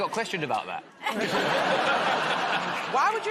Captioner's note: laughter